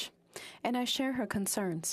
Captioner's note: speaking French